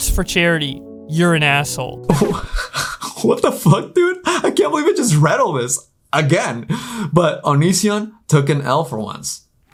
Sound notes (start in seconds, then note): 2.1 laughs